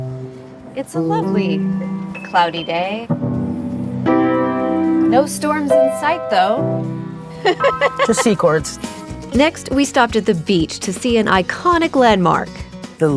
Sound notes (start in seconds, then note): 0.1 gentle piano music; 3.1 deep piano music; 7.4 laughing